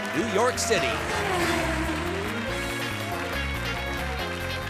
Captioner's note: car whirring